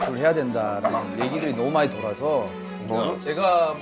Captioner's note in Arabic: السعال